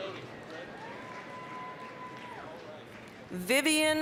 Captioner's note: applause, cheering